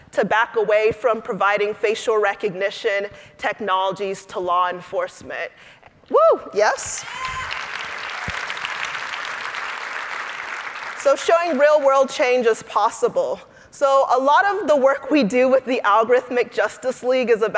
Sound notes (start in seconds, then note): 7.1 audience applauding